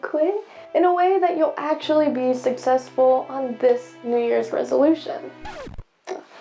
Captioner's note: record scratch